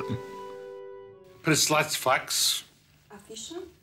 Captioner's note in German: russisch